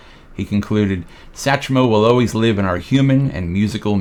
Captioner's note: none